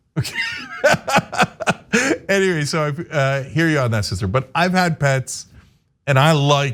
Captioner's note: laugh